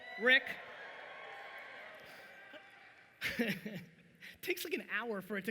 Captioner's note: audience cheering